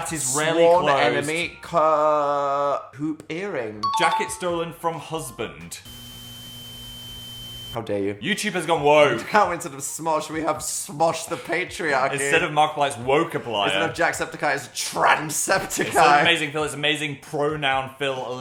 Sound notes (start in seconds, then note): 5.7 device beeps; 5.7 static crackling